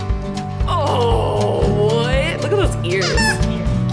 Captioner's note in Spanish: Juguete chirriante